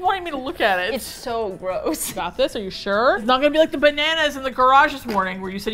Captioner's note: laughing